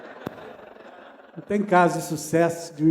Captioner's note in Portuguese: Risos